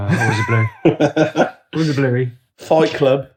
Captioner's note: laughing